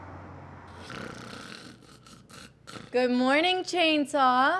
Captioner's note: Charles snoring